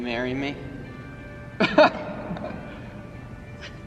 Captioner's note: chuckles